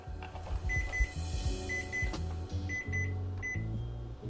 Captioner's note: timer beeps